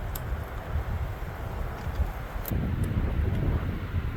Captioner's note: wind howling